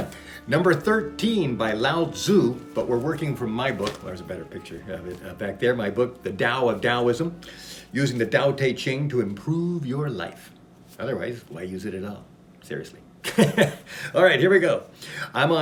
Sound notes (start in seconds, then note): 13.8 laughs